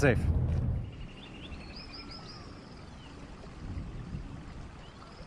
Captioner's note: birds chirping